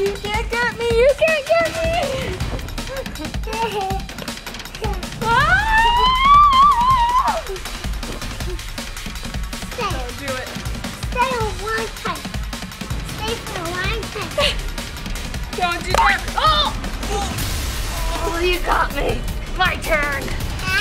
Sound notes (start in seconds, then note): 5.2 mom screams; 15.9 bouncing